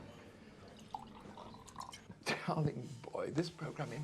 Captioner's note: liquid sloshing